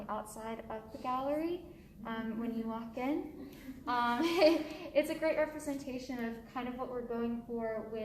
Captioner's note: laughs